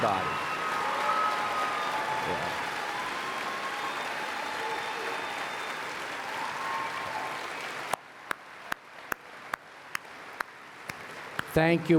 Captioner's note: applause and Cheering